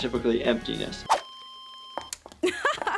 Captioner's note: machine flatline beeping; laughs